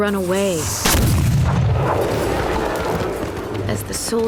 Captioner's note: cannon blast